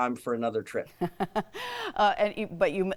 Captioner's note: laughing